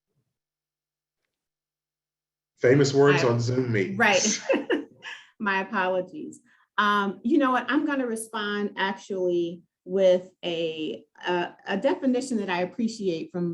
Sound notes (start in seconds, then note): 4.2 laughs